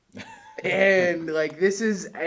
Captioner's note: laughs